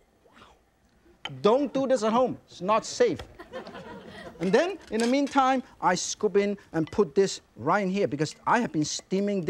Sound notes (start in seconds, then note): 0.0 lid clinks; 0.2 exclaims softly; 3.3 audience laughs; 4.4 utensils clinking